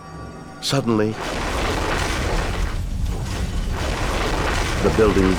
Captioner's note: building rumbles